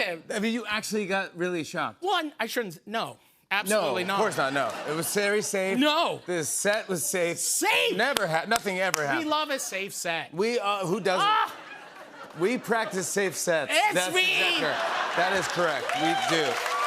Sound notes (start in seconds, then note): 11.2 laughter